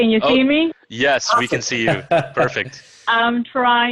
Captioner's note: laughs